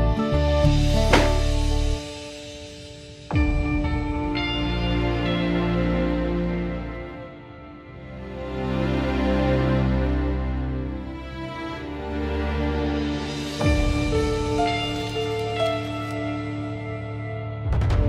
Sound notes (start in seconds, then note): 0.9 dustbin closes; 3.1 pensive music playing; 13.3 pensive music playing